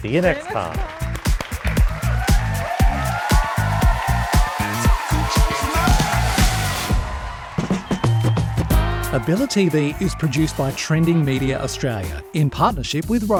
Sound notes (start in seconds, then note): 1.6 applause; 1.6 cheers